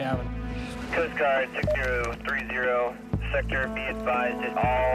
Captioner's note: voice On Radio